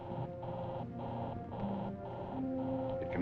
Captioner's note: alarm buzzing